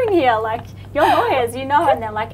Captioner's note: laughs